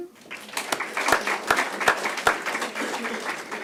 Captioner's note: applause